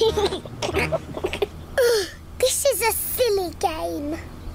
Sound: laughs; groans

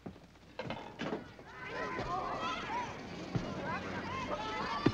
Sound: ballplayers chattering

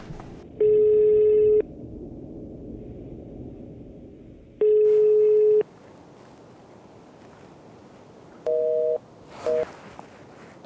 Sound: phone rings

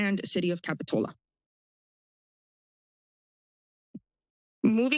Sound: pause

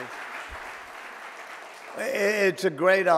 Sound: audience applauding

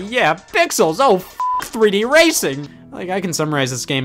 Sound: beep

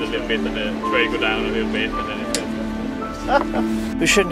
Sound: winds

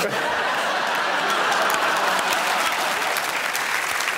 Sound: audience laughing

